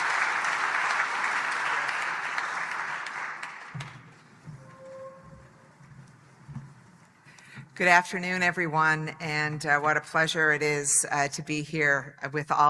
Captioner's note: applause